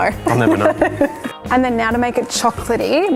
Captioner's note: laughs